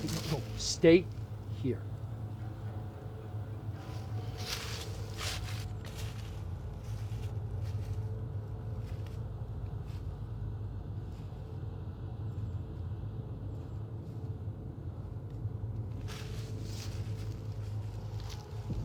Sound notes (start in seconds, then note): 1.7 dramatic music; 3.6 leaves rustling